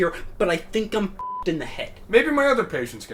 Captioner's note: beep